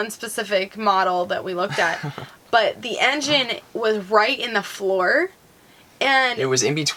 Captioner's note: laughing